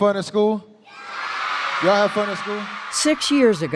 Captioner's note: cheering